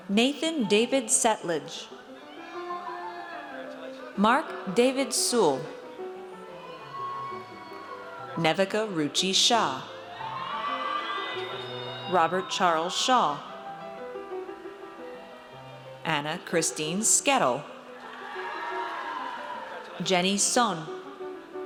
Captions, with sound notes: Nathan David Settlage. (audience cheers) Marc David Sewell. (audience cheers) Nevika Ruchi Shah. (audience cheers) Robert Charles Shaw. Anna Christine Sketel. (audience cheers) Jenny Son.